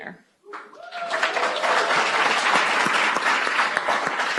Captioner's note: audience applauds